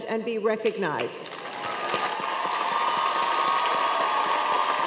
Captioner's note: cheers and applause